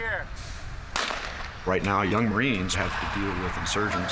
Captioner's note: gunshot